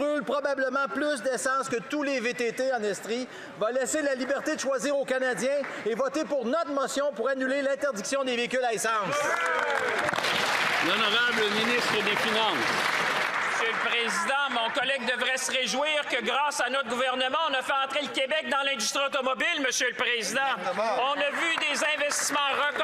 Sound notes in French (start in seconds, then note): 14.1 voix de l'interprète